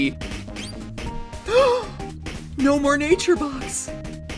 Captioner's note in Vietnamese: giật mình